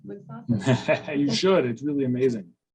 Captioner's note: laughs